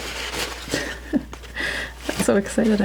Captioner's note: laughing